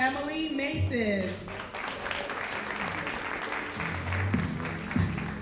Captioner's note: audience applauding